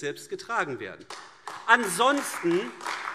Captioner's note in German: Beifall AfD